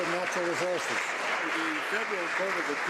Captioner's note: some Applause